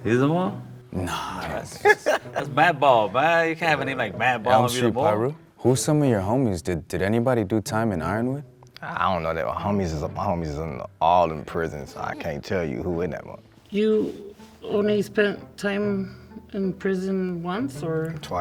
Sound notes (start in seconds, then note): 1.1 laughs